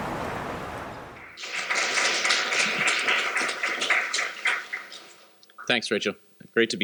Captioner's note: applause